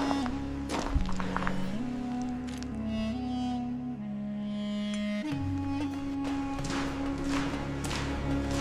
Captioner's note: dramatic music; dirt scraping; dirt sweeping; water splashing